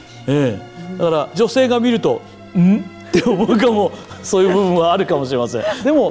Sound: laugh

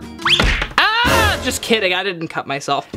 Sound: screams

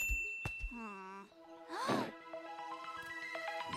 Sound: gasps

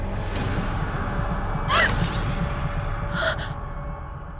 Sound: suspenseful music; gasping

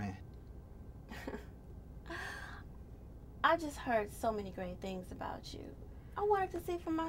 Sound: laughs

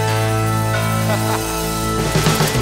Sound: laughs

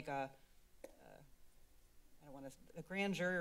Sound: pause

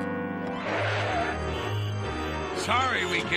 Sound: tires screech, horns honk

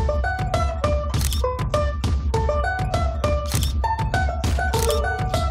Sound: upbeat music; camera shutter clicking

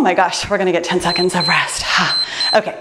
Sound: timer beeps

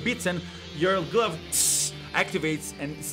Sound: tss

